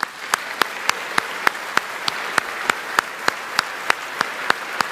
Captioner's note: audience applauding